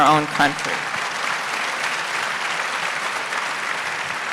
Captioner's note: applause